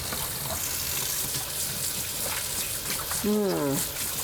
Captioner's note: water splashes